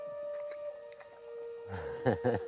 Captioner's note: chuckle